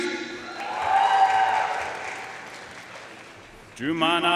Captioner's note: audience cheering and applauding